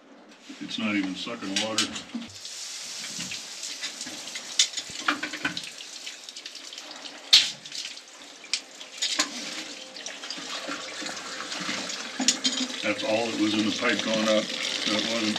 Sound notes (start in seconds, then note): 9.2 water running